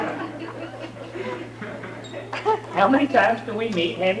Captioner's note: laughter